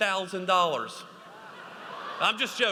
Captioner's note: audience laughs